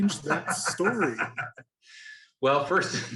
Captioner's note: laughing